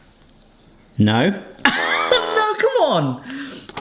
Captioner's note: laughs; fail trombone honks